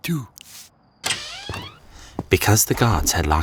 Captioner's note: window creaking